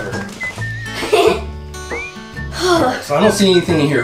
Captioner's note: giggles